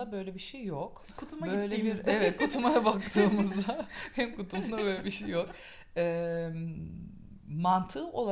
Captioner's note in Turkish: gülüşmeler